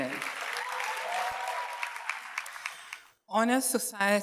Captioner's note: audience cheers and applauds